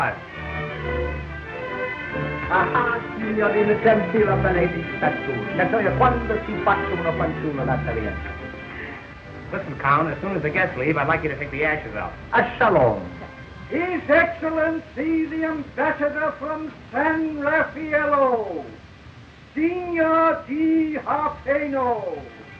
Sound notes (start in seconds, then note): 0.2 sensational instrumental music; 3.0 speaking in foreign language